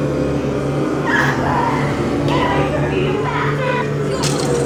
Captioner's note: shouting